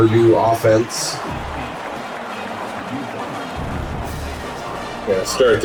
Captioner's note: crowd Noises